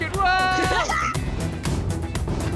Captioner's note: maniacal laughter